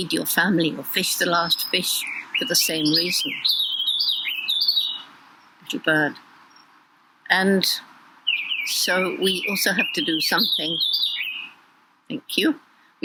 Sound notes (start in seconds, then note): 4.0 bird chirping; 11.2 cinguettio di uccelli